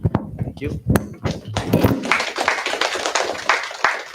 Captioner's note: applause